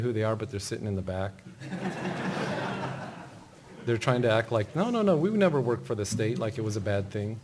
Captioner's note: laughter